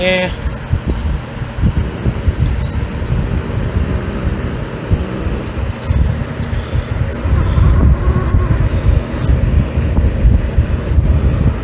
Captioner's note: Caprice growls